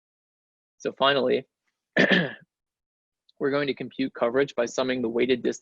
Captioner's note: clears throat